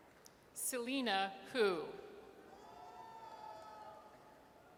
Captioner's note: audience cheers